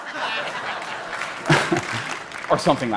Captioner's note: laughter; applause